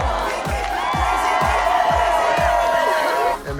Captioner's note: cheering